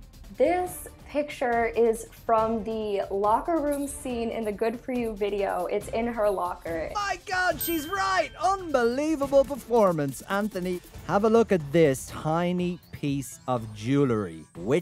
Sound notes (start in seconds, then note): 7.5 bell dings